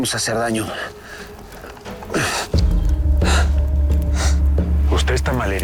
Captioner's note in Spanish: Quejidos